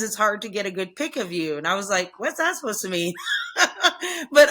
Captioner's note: laughs